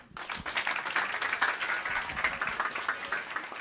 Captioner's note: applause